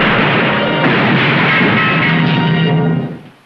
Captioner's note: crashing noises, wood breaking